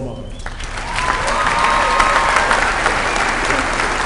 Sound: applause

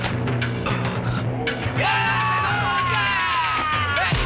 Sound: all yelling

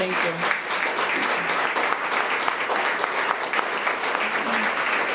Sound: audience applauds

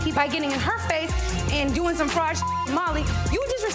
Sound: beep

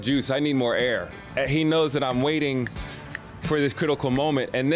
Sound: snapping fingers

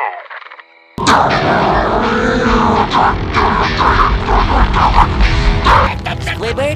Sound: growls menacingly while music plays

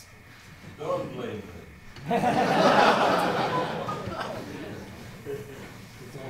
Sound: laughter

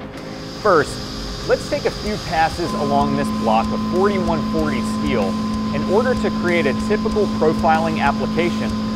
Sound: machining noises

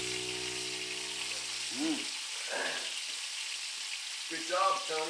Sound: sizzling sounds

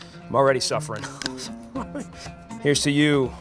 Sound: laughs

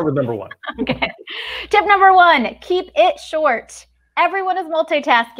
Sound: chuckles

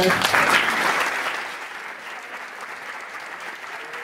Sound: applause

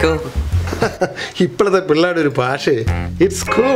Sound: laughs

